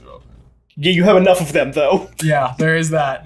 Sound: laughs

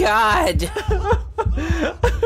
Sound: laughs

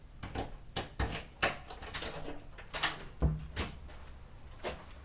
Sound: door opened

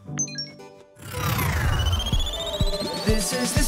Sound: upbeat music; electricity whirring

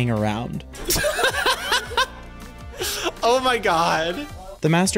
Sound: laughing

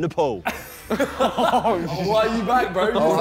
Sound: laughing

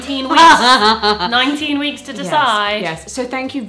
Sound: chuckles

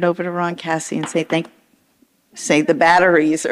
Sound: object rattles

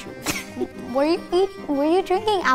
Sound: laughing

